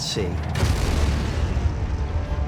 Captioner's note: explosion